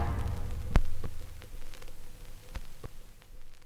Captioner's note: shellac record crackles